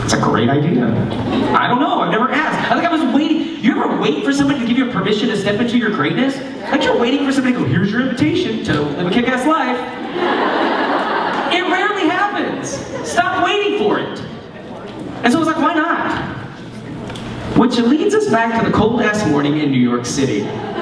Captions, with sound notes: That's a great idea, I don't know I've never asked. You ever wait for someone to give you permission to step into your greatness? Like you're waiting for somebody to go, here's your invitation to a kick ass life. (laughter) It rarely happens, stop waiting for it. And so I was like, why not? Which leads us back to the cold ass morning in New York City.